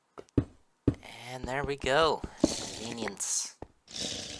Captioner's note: loud sipping from tank begins